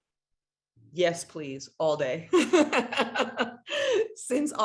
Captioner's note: laughs